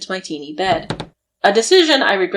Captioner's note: creaking bed